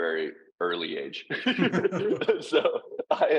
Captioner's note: both laughing